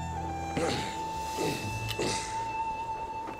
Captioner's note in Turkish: Ikınma sesi